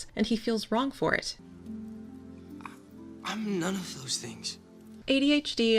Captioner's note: Livecup, stammering